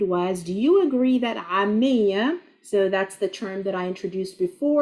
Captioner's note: speaking Arabic